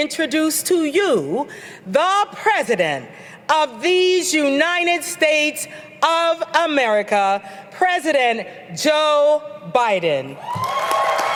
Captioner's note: applause